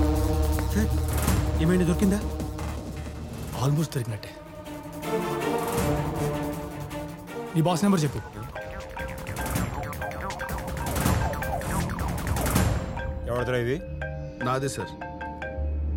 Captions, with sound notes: Sir, did you find anything? Almost! Tell me your boss's number. (Phone rings) Whose is it? It's mine, sir.